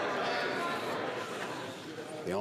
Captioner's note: crowd Noise